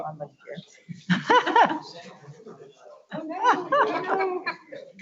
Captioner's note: laughs